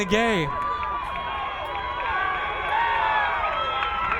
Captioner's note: crowd cheering